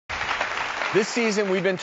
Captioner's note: audience clapping